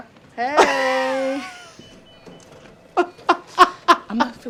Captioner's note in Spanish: personaje hablando tagalo; riendo